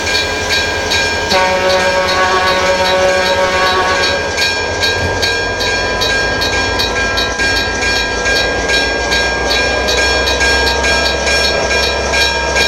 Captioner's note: CB&Q Pioneer Zephyr horn, diesel engine powering up